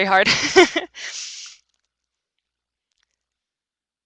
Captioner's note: chuckles